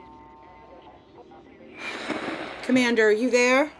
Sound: static

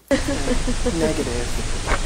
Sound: human laughing

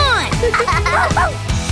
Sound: giggling

